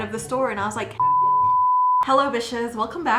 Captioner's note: beep